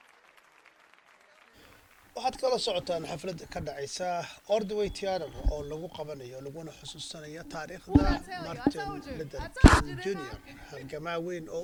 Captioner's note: cheers and applause